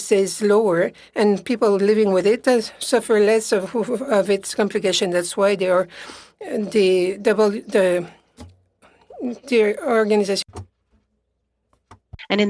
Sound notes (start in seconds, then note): 3.7 speaking French